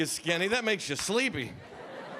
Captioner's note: audience laughing